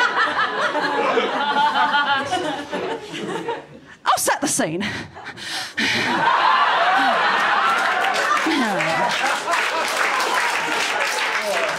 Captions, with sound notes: I'll set the scene. (LAUGHTER) (APPLAUSE)